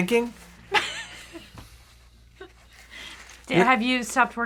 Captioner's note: laughs